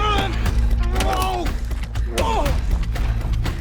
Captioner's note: dramatic music; both moaning; dramatic music